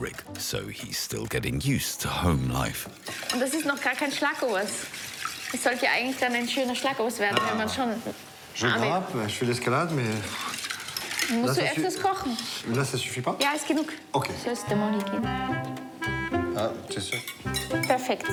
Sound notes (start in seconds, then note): 3.2 speaking foreign language; 14.2 gentle music